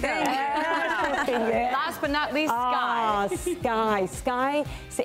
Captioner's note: laughing